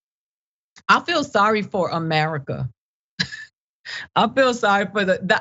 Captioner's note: laugh